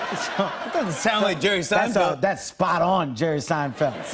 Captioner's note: normal voice